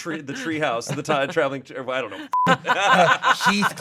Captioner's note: group laughing; beep